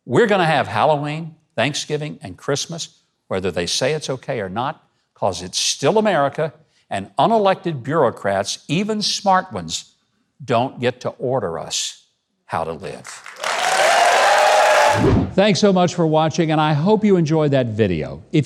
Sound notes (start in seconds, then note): 13.0 clapping and cheering